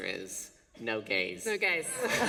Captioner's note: laughter